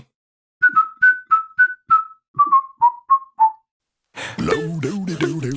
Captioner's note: whisling